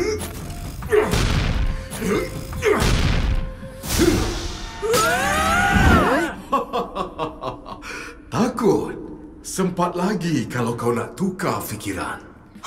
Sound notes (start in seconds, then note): 0.3 loud stomping; 3.3 scary breathing; 4.8 screaming; 6.0 confident laughter